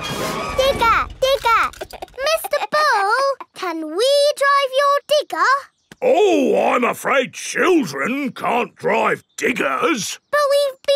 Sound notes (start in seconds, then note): 2.4 chuckles